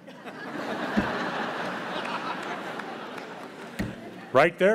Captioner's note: audience laughs